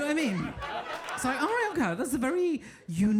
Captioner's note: audience laughing